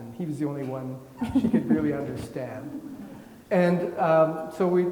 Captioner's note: laughing